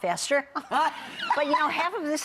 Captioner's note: laughing